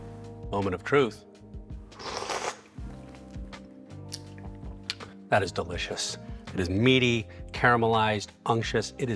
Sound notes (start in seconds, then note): 1.9 slurping